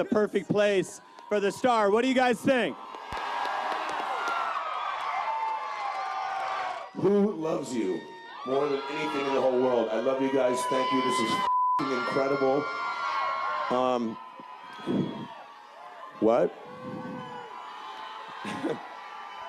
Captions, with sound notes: the erotic museum and Frederick's right here so I think this is a perfect place for the star. What do you guys think? [audience cheering] Who loves you more than anything in the whole world? I love you guys. Thank you. This is fu-- incredible. Um. What?